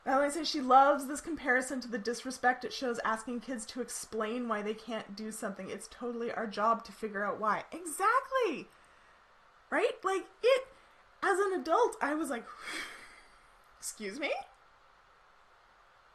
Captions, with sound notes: Valerie says she loves this comparison to the disrespect it shows asking kids to explain why they can't do something. It's totally our job to figure out why. Exactly, right? Like it, as an adult, I was like (sighs) excuse me?